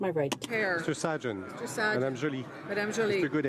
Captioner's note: speaking in french